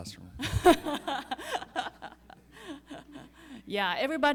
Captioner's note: audience laughing